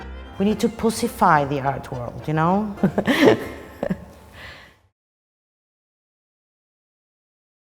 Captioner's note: laughs